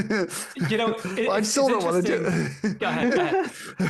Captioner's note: laughs